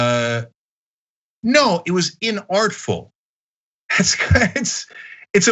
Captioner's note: laugh